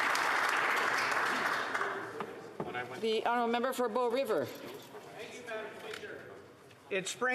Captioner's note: some Applause